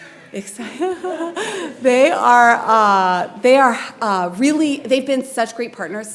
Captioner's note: laughs